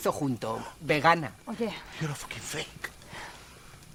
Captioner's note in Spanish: habla en inglés